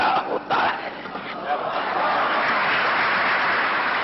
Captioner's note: applause